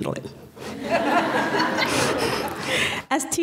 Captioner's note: laughter